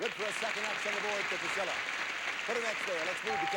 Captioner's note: audience applauding